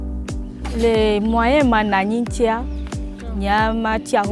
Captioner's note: non-english speech